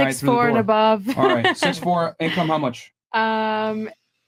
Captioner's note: laughs